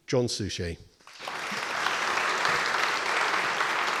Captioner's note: applause